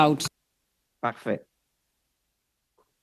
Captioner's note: speaking French